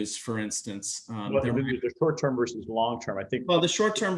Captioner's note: audio glitch